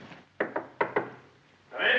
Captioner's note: knock at door